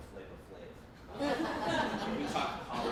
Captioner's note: laughing